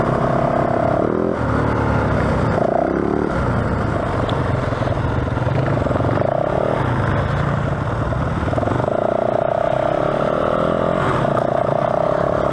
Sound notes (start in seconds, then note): 1.4 engine revving